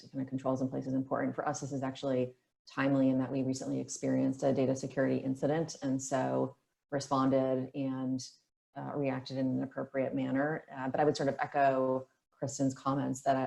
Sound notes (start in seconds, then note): none